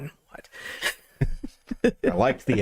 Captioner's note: laughing